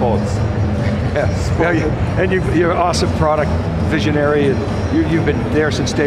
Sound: laughs

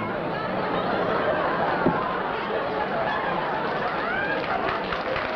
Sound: laughter

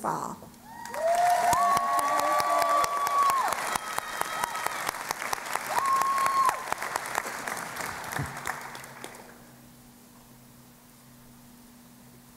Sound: cheering and Applause

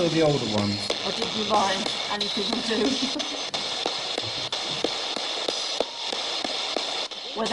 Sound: laughing

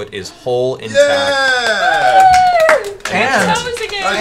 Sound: cheering

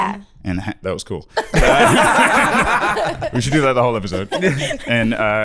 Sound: all laughing

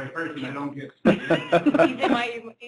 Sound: laughter

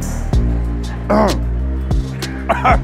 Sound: coughs

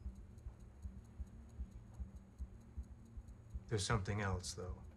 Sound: watch ticking

